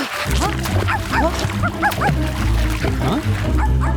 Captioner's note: dog barks; water splashing